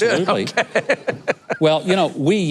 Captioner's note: laughs